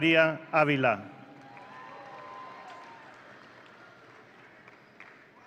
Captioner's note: audience cheering